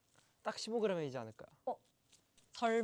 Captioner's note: confident